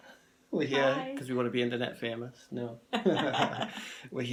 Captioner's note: both laughing